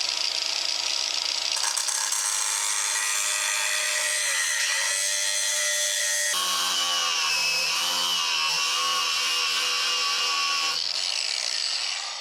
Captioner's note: drilling